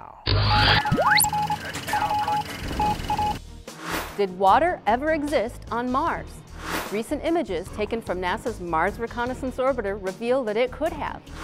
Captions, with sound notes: [ Sound Effects ] Did water ever exist on Mars? Recent images taken from NASA's Mars Reconnaissance Orbiter reveal that it could have.